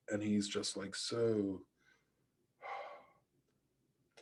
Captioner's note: sighs